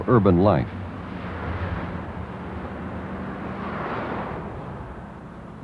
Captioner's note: traffic sounds